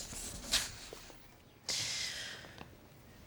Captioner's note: inhales loudly